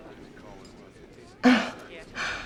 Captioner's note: chuckles